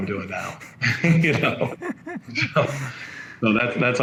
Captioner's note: men chuckling